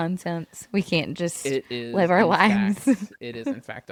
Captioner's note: laughs